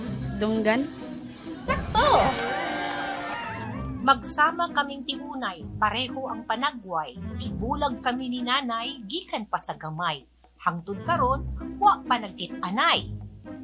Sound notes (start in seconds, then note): 1.6 digital voice; 1.7 excited cheering